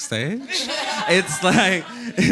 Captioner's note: audience laughing